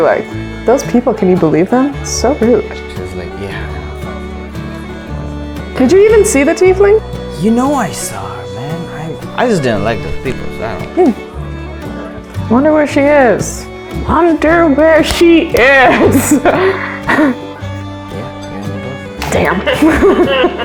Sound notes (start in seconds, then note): 15.8 laughs; 19.6 laughter